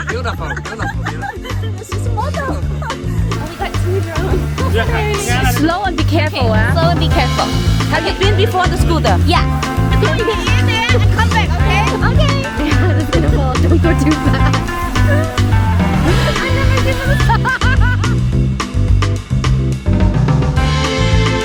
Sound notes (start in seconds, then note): 15.9 laughter